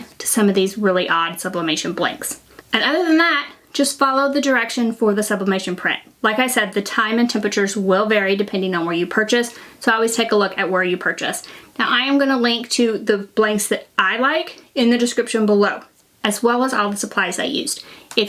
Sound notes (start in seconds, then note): none